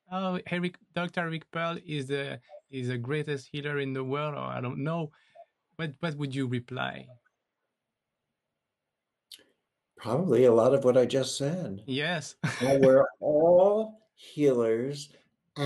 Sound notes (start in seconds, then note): 12.4 chuckles